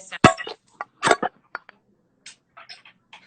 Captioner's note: clanking